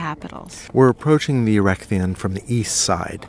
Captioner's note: voiceover